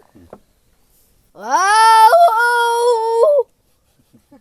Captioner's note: imitating jackals; laughter